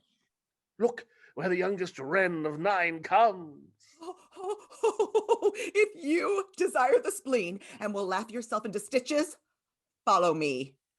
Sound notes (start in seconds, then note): 5.5 excitement